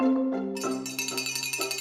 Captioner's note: bell Ringing